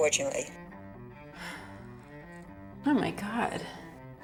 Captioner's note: sighs